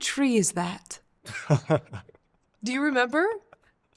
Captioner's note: laughter